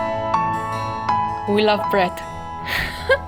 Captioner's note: laughs